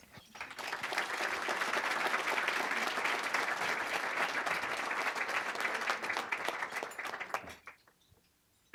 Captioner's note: applause